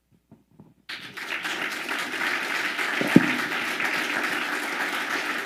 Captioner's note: audience applauding